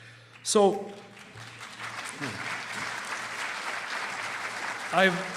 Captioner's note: applause